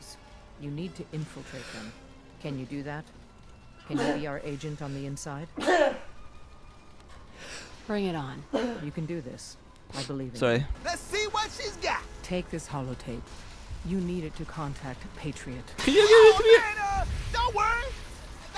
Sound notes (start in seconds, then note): 3.9 weird sneezes